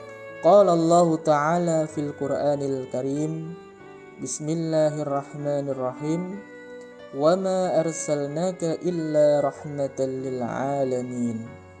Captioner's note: reading a quran verse